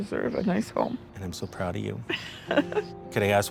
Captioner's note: laughs